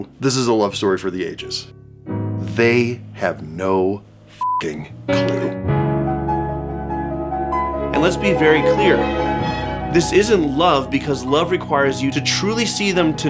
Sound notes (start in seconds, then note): 4.4 beeping